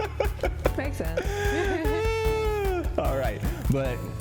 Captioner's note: both laugh